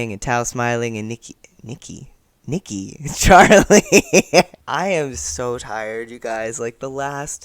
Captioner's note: laughter